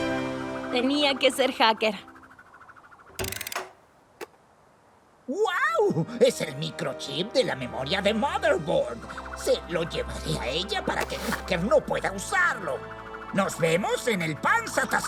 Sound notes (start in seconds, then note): 3.1 box whirs